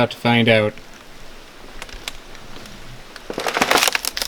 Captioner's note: sound of leaf crunching